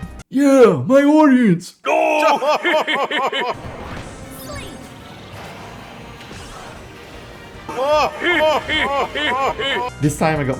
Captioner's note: Statler and Waldorf laugh